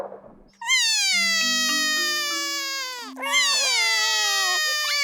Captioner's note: both crying